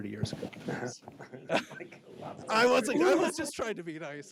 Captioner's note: laughs